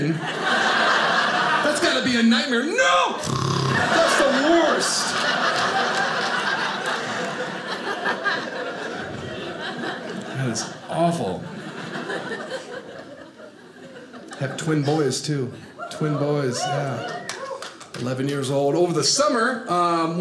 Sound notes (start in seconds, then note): 0.0 audience laughing; 3.2 mimics snoring sound; 4.6 audience laughing